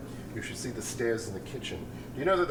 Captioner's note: none